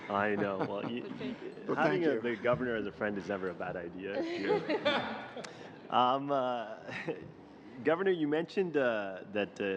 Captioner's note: laughter